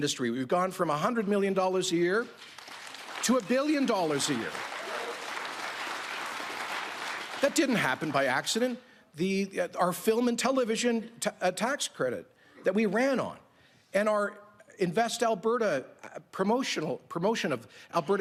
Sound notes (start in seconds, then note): 9.3 applause